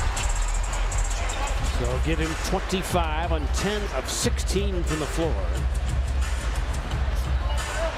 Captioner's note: cheers and applause